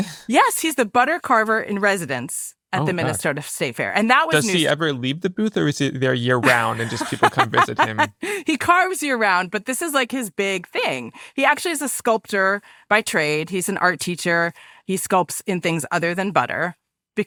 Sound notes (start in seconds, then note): 8.0 laughs